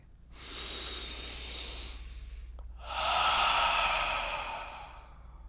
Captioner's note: inhales and exhales